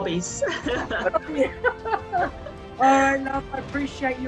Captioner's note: both laughing